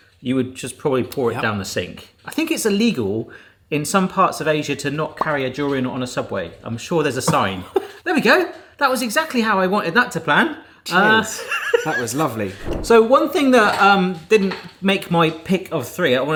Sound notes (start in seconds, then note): 11.0 laughing